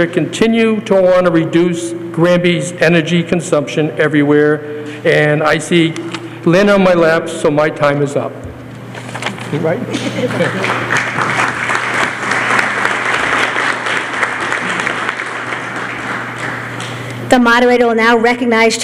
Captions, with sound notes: continue to want to reduce Granby's energy consumption everywhere. And I see Lynn on my left, so my time is up, right? [LAUGHTER] [APPLAUSE] The moderator will now recognize